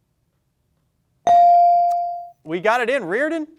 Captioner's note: bell dings